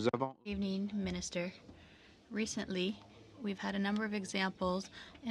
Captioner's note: speaking french